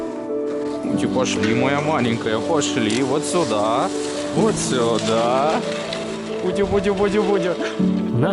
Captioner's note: untranslatable sounds of tenderness